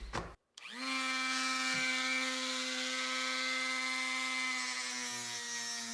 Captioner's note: Dremel buzzing